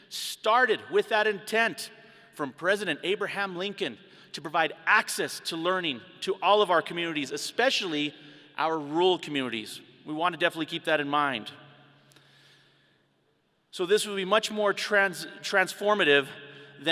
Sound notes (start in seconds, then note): none